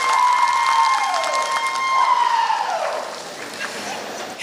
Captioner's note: applause